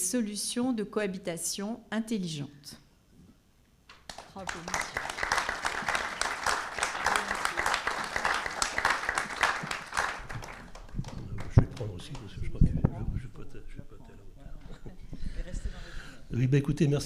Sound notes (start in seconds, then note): 1.9 applause